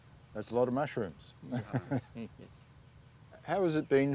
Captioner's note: laughs